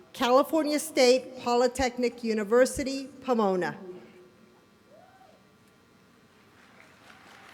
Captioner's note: applause